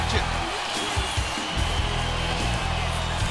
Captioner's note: crowd cheering